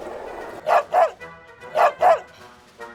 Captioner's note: barking